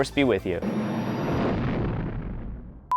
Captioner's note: rumbling